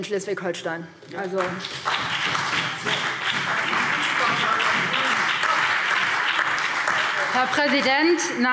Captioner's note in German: Beifall BÜNDNIS 90/DIE GRÜNEN, SPD, Freie Demokraten und DIE LINKE